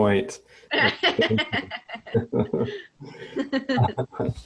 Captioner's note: laughter